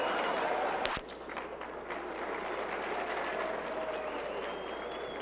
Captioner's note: crowd cheering; crowd clapping